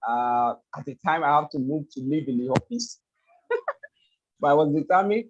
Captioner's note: laughs